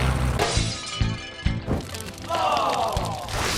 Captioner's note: clanking